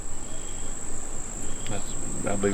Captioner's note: birds tweet; insects buzz